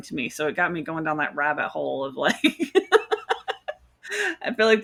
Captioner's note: laughs